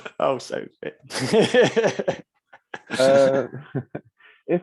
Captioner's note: laughter